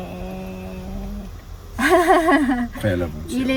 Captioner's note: laughing